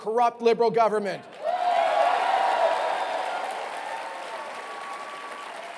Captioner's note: cheering